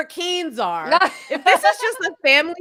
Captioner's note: laughing